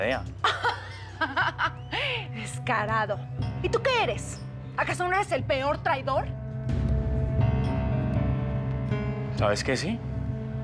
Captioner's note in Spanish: risotada